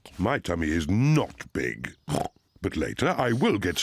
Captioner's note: snorts